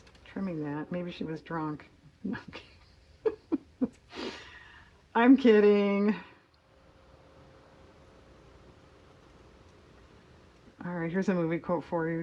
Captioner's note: laughs